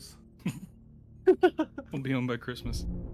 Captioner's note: sophisticated giggle